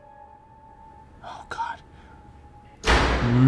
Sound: whispers; door slams; groans

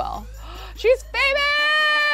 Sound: gasps

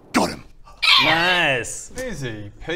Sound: squeal

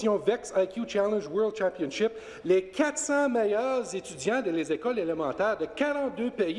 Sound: speaking French

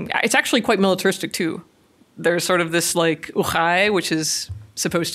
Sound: foreign language

